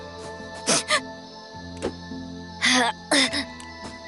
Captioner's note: sniffles, groans